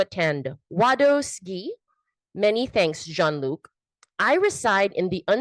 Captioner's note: speaks in foreign language